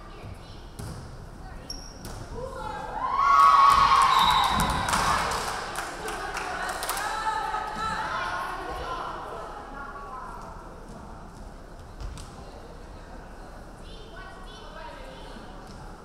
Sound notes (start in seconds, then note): 3.0 crowd cheering; 4.1 referee whistling